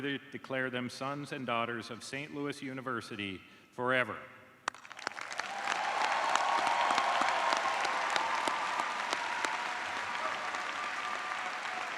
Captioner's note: cheers and applause